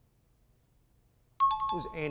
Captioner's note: high-pitched tones